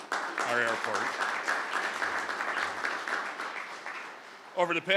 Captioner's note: crowd clapping